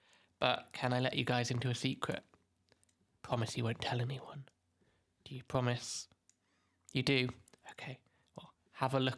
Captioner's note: whispers